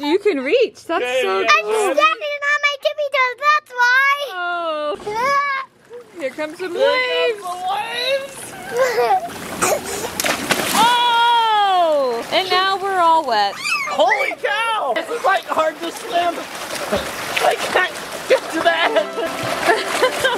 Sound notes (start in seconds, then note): 5.3 yells; 10.3 splash; 18.7 laughing